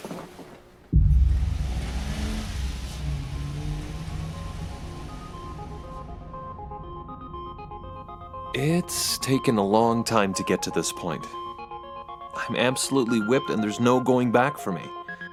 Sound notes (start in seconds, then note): 0.9 car rumbles; 4.4 gentle ambient music